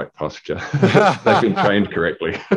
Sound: laughing

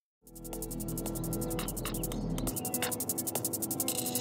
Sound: birds chirping

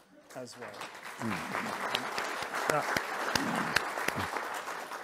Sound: audience applauding

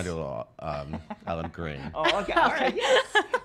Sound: laughing

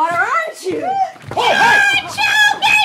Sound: shrieking

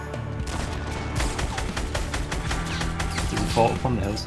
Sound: guns firing

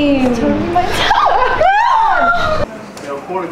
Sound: Lilly and Anna Screaming

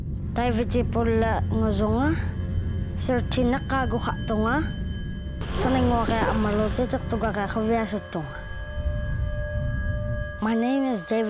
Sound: speaking Inuktitut

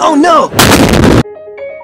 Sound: explosion

